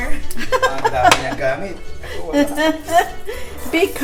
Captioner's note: laughs